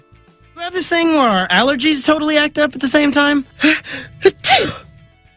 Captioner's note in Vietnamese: Hắt xì